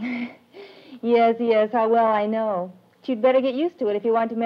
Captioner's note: laughs